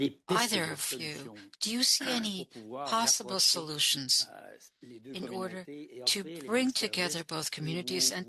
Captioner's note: speaking French